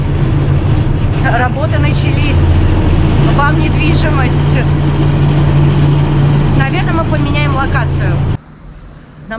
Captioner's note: noise of construction equipment